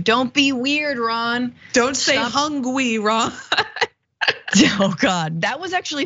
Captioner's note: laugh